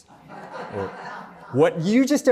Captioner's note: laughter